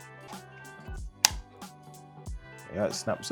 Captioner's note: arm clicking